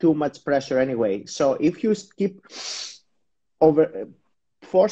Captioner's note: taking a deep breath